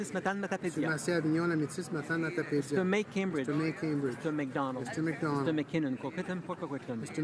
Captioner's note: speaking in french